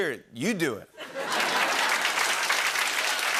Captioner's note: laughter and applause